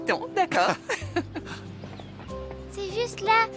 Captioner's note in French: rires